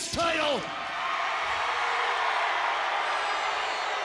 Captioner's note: audience cheers